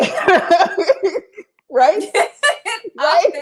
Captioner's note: laughter